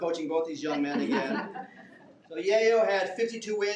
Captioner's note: some members laugh